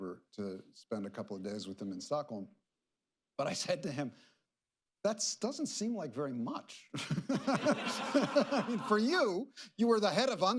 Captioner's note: laughter